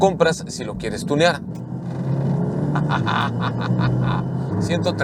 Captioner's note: engine roaring